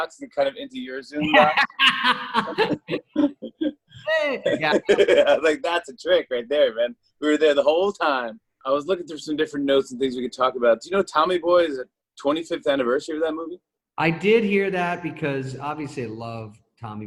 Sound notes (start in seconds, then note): 1.2 laughs